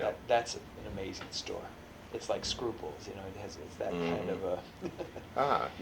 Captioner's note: laughs